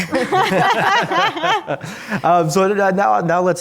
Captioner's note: panelists laugh